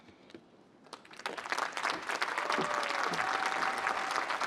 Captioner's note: applause